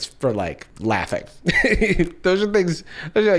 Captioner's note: laughs